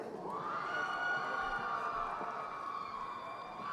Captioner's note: crowd cheering